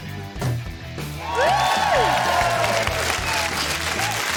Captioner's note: cheering, applause